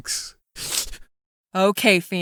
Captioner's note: sniff